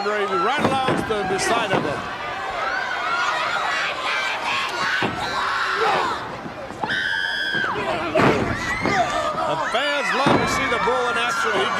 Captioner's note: crowd cheering